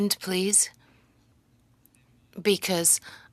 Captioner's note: speaking French